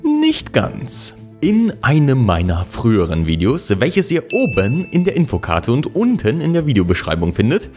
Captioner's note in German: ding